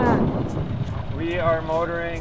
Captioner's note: wind